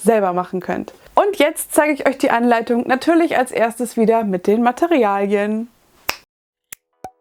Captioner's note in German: schnips